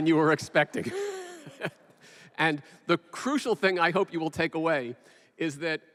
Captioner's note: laughs